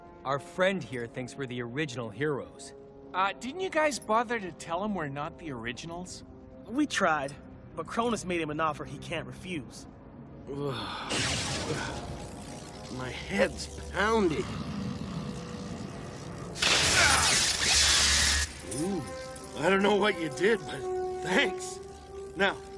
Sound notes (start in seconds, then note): 11.2 groaning; 16.7 screaming